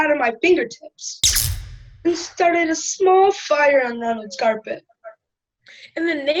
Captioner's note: zap